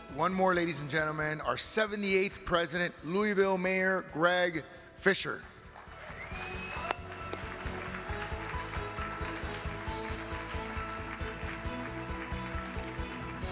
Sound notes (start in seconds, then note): 5.6 audience applaud; 8.0 cheerful upbeat music